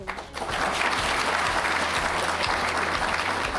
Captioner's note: applause